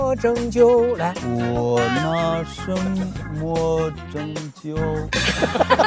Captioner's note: shakily